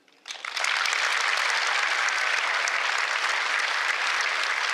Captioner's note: applause